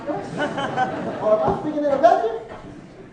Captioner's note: laughing